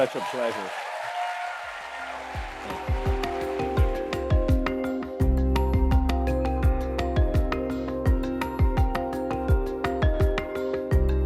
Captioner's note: applause